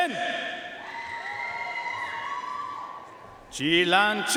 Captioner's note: audience cheering and applauding